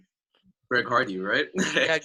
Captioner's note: laughing